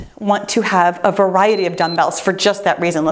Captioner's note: timer beeps